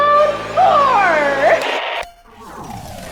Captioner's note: BZzzt